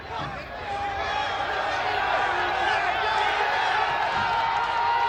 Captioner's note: audience cheers